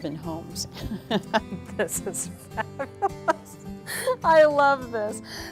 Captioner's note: laughter